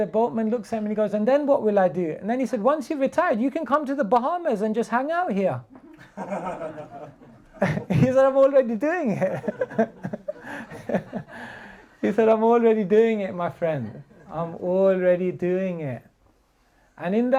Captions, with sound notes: boat man looks at me he goes 'and then what will I do?' And then he said, 'once you retired, you can come to the Bahamas and just hang out here.' (laughter) He's already doing it. He said I'm already doing it, my friend, I am already doing it. And in